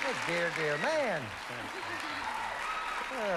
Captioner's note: mumbling